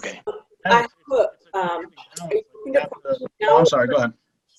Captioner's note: mumbles